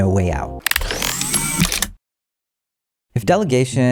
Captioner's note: whirring